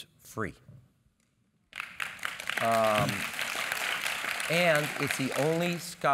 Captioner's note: applause